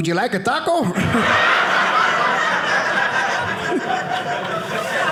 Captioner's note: audience laughing